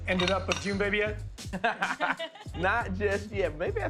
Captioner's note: laughter